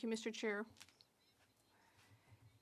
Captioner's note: speaking French